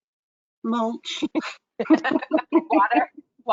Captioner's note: giggles; laughs